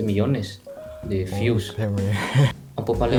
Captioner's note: Spanish